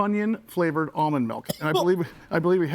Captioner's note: coughs